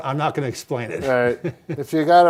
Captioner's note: laughing